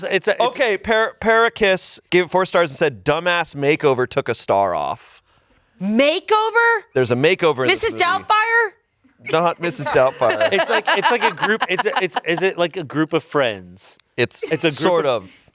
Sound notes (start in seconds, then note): 9.7 laughs